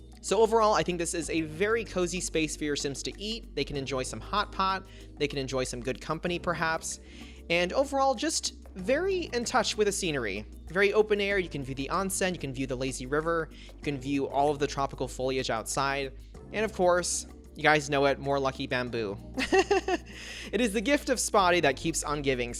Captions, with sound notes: So overall, I think this is a very cozy space for your Sims to eat. They can enjoy some hot pot, they can enjoy some good company perhaps, and overall, just very in touch with the scenery. Very open air; you can view the onsen, you can view the lazy river. You can view all of the tropical foliage outside. And of course, you guys know it - more lucky bamboo! (Laughs) it is the gift of Spa Day that keeps on giving,